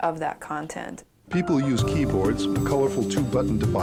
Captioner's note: voiceover